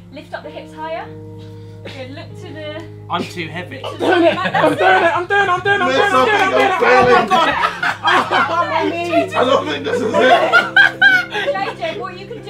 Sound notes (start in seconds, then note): 7.8 group laughing